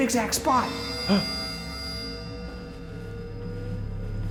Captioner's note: gasps